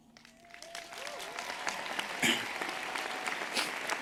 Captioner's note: audience applauds